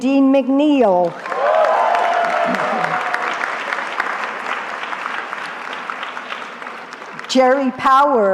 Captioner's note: cheering